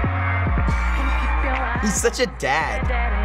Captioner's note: snapping fingers in beat to music; laughs